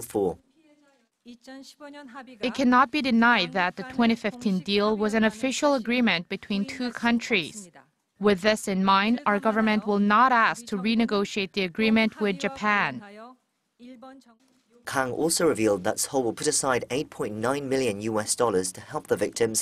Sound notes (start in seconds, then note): 1.3 Korean